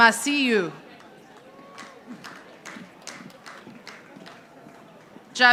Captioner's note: audience applauding